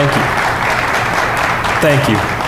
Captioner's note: audience claps; more claps